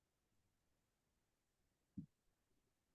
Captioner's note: silent pause